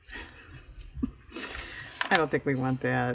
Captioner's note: laughs